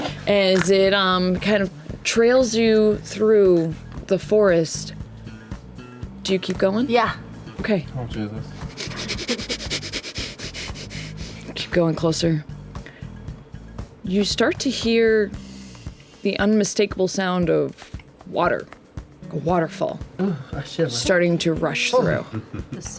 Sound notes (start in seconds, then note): 8.5 sniffs